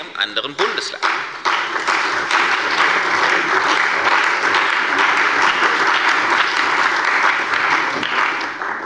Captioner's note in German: Beifall bei der CDU und dem BÜNDNIS 90/DIE GRÜNEN